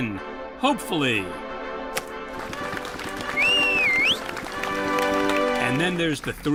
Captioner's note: clapping and cheering